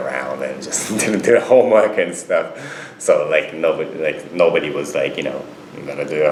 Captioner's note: laughs